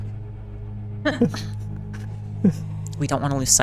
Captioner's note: laughter